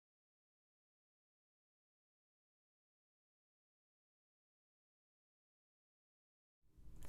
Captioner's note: silence